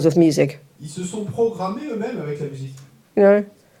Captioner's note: French